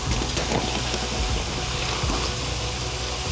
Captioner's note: cement sizzling, bubbling